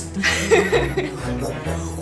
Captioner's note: laugh